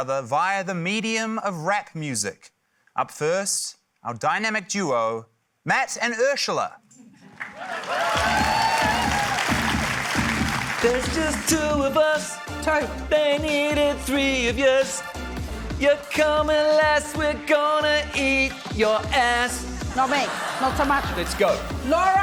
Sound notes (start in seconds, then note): 7.4 cheering, applause; 9.0 heavy hip-hop beat plays; 19.9 laughter